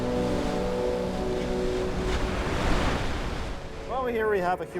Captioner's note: somber electronic music; waves crash